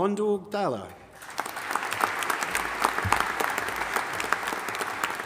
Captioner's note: audience applauding